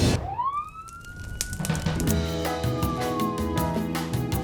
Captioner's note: sirens